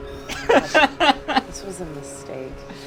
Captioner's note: laughs